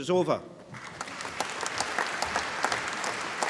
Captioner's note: applause